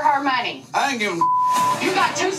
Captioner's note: beep